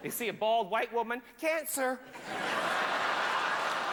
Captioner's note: howling laughter